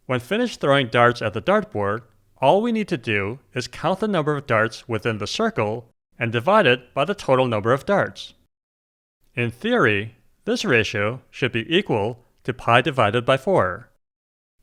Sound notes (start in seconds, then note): none